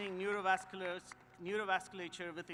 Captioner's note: applause